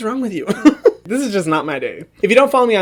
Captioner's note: laughs